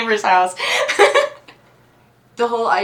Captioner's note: laughs